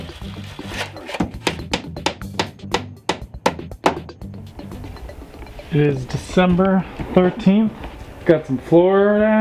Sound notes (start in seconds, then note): 0.6 hammering